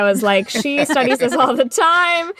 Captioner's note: laughter